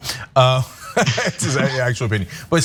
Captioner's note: laugh